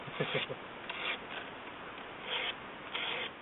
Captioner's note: laughter